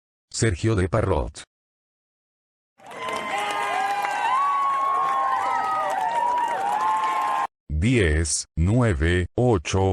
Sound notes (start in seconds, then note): 2.9 pigeons cheering